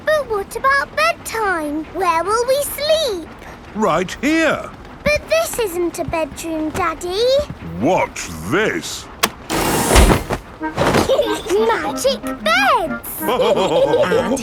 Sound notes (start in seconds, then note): 10.8 laughing; 13.2 all laughing